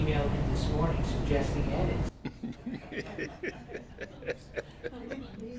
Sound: laugh

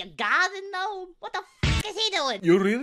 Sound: hit

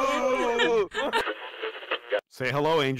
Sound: radio tuning noise

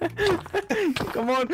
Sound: laughing

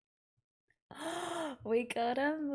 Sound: gasps

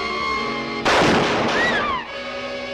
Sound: gunshot

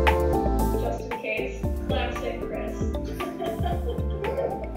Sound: laughter

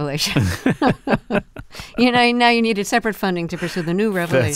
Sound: laughter

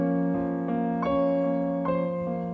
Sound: none

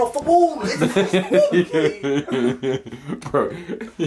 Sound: laughing

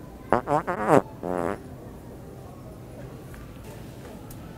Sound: farting noise

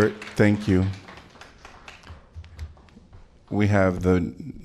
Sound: applause

